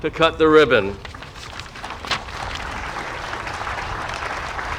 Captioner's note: audience applauding